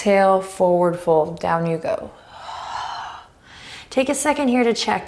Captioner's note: deep breaths